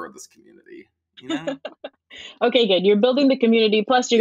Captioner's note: laughs